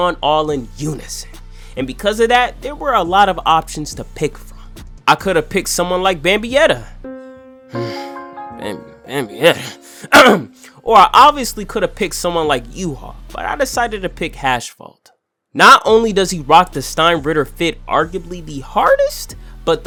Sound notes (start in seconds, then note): 10.1 ahem